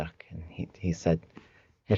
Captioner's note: speaking in the Tlingit language